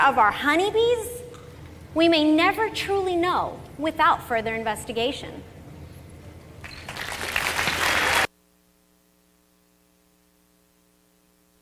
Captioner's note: applause